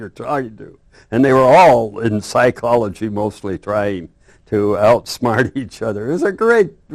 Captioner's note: laughs